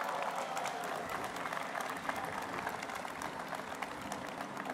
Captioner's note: applause